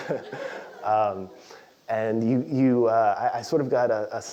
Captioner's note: laugh